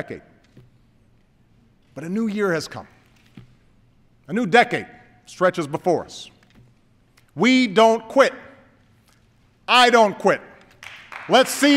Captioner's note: applause